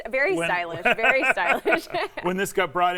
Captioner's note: laughs